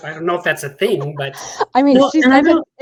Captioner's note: laughs